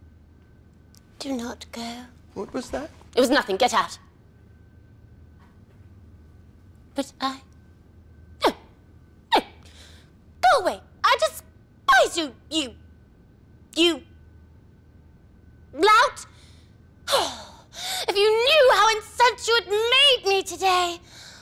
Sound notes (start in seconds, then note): 17.1 sighs angrily